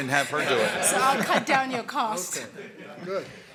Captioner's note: laughter